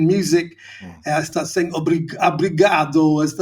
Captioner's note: speaking Portuguese